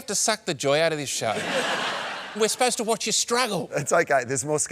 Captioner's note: laughter